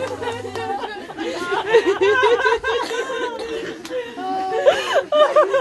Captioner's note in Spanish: continúan risas y sollozos